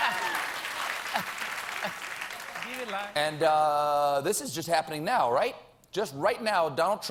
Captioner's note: applause